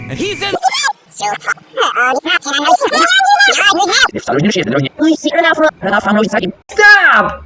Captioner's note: no, not everyone speaking sped-up again!